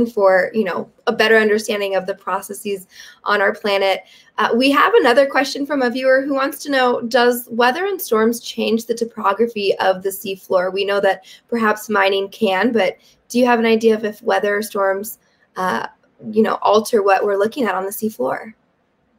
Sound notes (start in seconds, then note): none